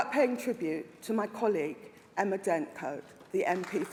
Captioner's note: applause